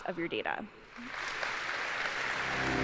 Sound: applause

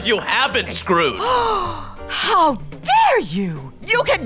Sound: gasps

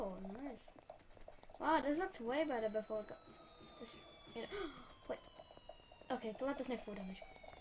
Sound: gasp

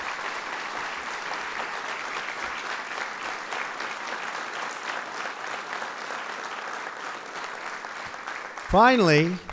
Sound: applause

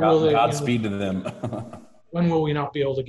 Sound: laughs

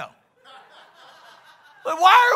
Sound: congregation laughs

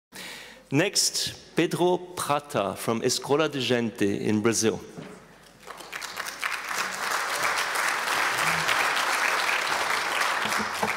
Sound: applause

